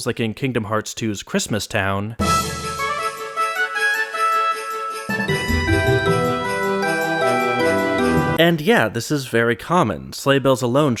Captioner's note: bang